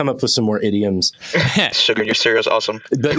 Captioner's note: laughter